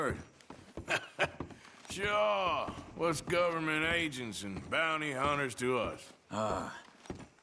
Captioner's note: laughs